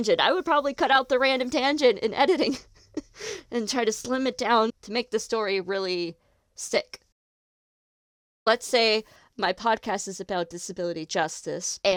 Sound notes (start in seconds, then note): 2.7 laughs